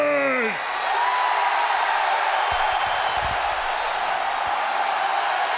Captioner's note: audience cheering